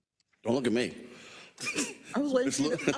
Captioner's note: laugh